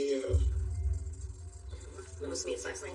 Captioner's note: TV static h hisses